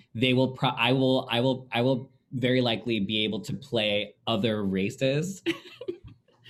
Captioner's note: laughing